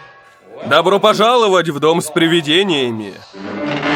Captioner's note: echoing